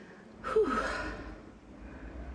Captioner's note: exhale